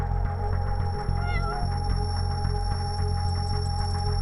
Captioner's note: cat meowing